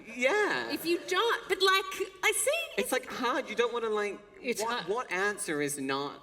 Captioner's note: none